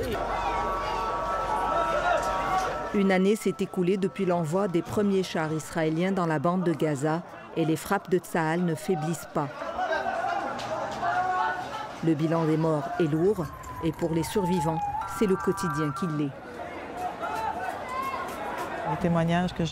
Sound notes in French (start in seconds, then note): 9.6 cacophonie de cris